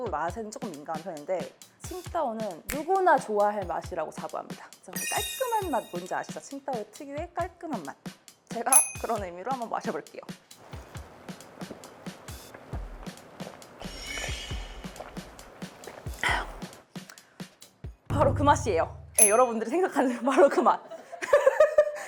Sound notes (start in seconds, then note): 13.8 crazy sound